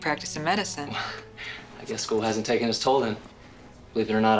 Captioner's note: laughs